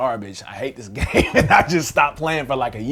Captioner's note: laughing